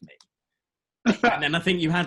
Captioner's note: laughs